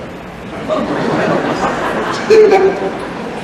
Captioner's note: laughter